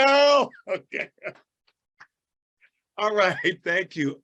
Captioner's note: chuckles